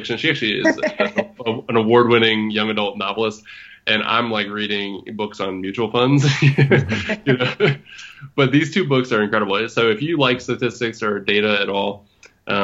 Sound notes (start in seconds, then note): 6.1 laughs